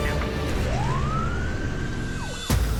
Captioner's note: siren wailing